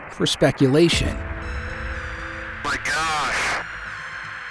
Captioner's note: pilot on radio: my gosh